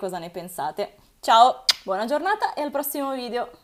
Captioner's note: kiss